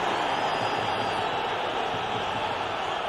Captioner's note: peluit berbunyi